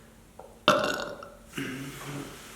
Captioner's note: burps